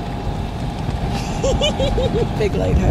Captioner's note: giggles